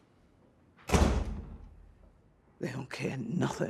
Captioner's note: door bangs